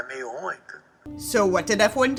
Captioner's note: speaking in Portuguese